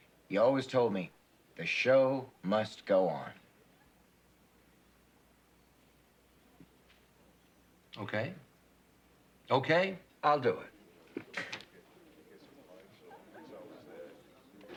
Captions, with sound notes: OK. OK, I'll do it. [chatter]